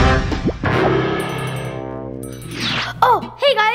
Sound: comic whoosh; bell ringing

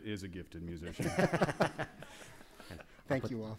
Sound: laughing

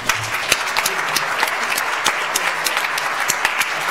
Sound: audience applauds

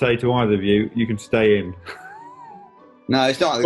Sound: chcukling

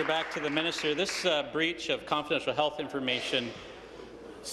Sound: applause

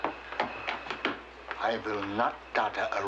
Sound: tap, tap, tap

